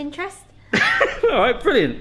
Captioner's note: laughs